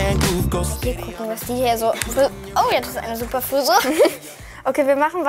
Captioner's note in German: Lachen